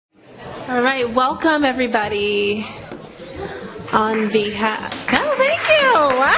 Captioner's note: applause